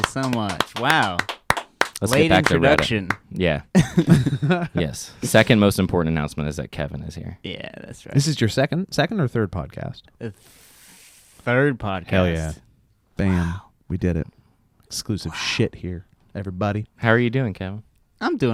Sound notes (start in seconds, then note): 0.0 clapping; 3.8 laughing